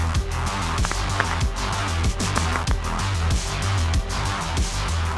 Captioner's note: neck cracking; upbeat music